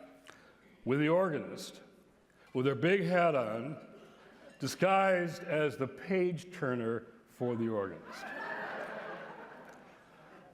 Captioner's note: laughter